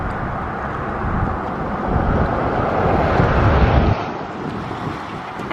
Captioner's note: traffic roars past